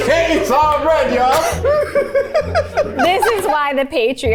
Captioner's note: everyone laughs